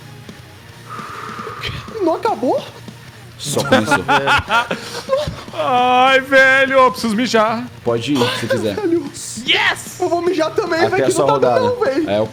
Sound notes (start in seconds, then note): 0.8 sigh; 3.7 laughs